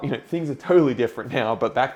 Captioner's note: chuckles